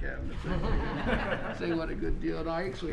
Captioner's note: laughter